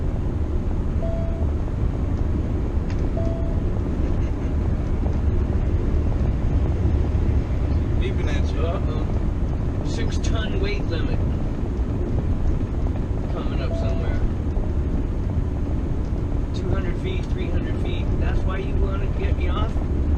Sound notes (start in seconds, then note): 1.0 beep; 3.1 beep >; 13.7 beep!!